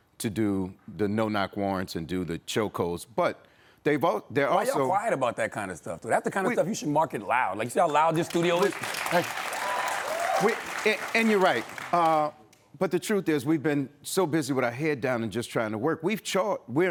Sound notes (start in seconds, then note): 7.8 audience applauds